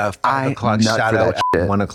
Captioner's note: beep